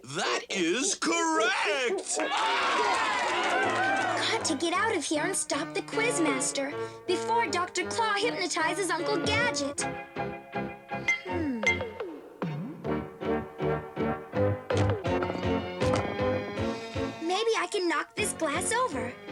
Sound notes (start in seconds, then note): 2.1 cheers; 10.9 clink clink